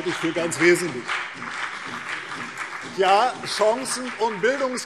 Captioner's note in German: Beifall CDU und BÜNDNIS 90/DIE GRÜNEN